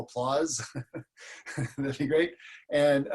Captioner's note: laughs